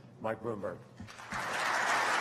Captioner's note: applause